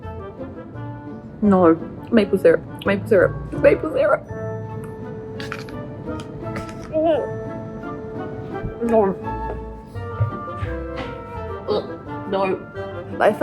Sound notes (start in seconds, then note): 7.2 gags; 10.2 heavy footsteps; 11.7 grunts